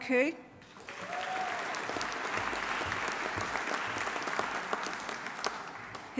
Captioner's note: audience applauding; audience cheering